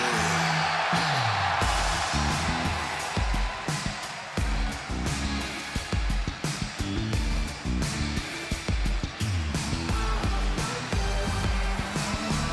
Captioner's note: cheers and applause